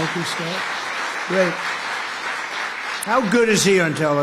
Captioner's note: applause